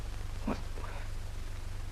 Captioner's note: both whispering